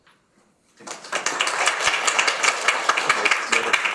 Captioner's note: audience applauds